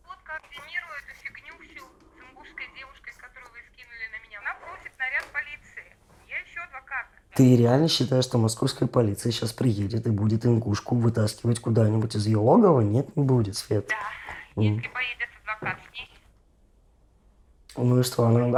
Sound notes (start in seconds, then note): 13.7 voice-over narration